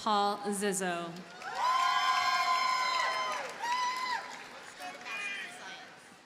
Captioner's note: audience cheers and applauds